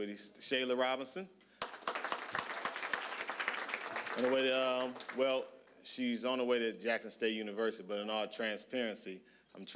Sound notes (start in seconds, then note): 1.6 applause